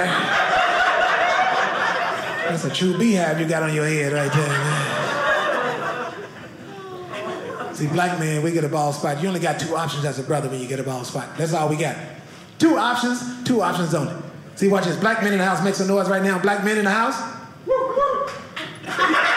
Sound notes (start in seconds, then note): 0.3 audience laughing; 4.9 audience laughing; 17.7 audience member cheers